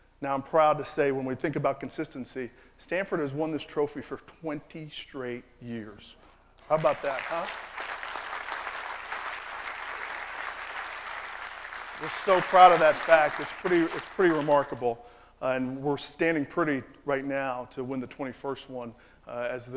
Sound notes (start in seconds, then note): 6.6 applause